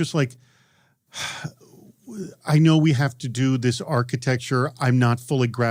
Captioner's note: sighs